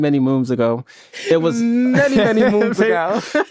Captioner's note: laughs